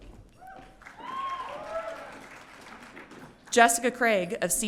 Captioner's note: audience cheering